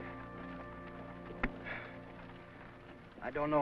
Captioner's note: sighs